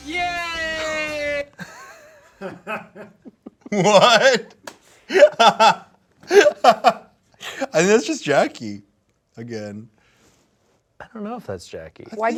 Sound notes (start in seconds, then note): 0.0 intense music; 0.9 laugh